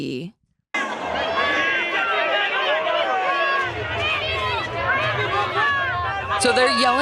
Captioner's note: people in stands yelling